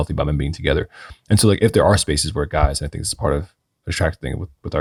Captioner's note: none